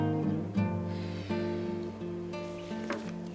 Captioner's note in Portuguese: Respiração profunda